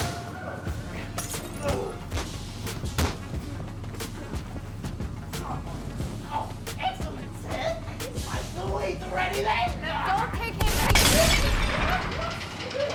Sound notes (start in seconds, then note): 0.1 distorted music; 0.1 prisoners scuffle; 10.6 gun fires; 12.3 Ramsey laughs; 12.3 urgent music